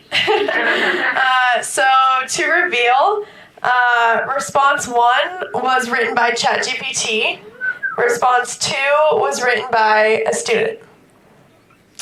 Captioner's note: laughter